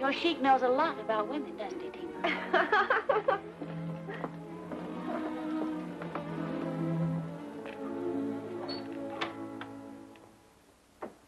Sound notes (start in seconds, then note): 2.2 laughs